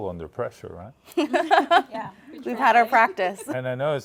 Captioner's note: laugher